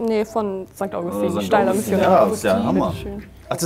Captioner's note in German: Stimmengewirr